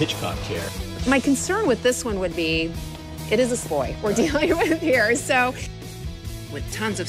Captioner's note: laughs